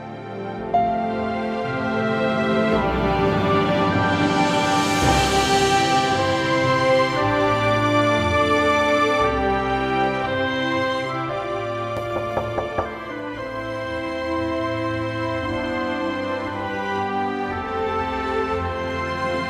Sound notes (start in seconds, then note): 0.1 inspiring music; 12.0 knocks at door